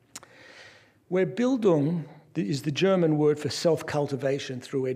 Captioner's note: non-english speech